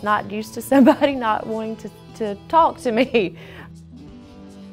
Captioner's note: laughs